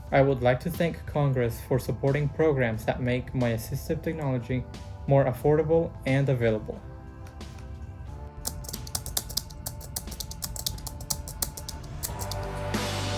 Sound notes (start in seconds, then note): 8.4 keys clicking